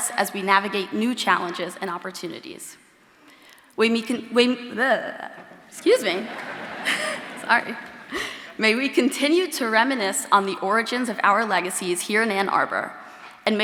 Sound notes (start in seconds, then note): 6.1 audience laughing